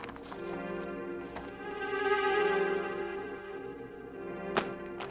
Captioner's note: papers rustling